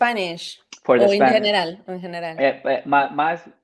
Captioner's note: speaks Spanish